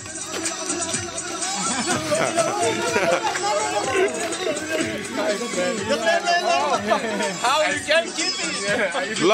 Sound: crowds Laughing

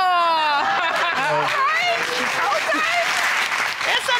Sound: laughs

